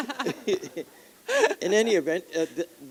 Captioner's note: laughter